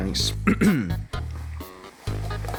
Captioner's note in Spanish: Se aclara la garganta